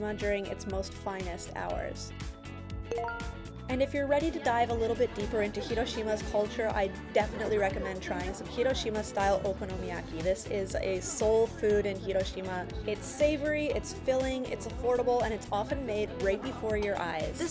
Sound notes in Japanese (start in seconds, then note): 1.6 アップビートな音楽; 2.9 グラフィック音